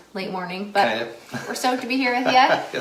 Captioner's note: laughs